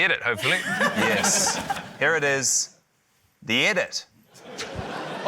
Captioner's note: laughter